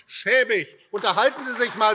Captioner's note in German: Beifall AfD